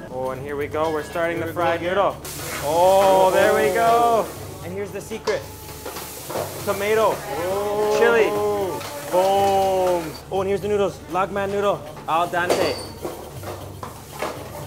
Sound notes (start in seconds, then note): 2.3 sizzling; 5.7 cheering; 5.7 sizzling